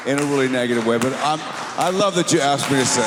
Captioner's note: slow hand clap